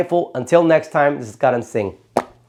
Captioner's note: lips popping